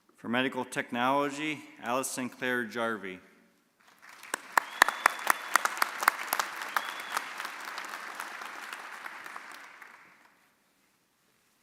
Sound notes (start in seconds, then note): 3.8 audience applauding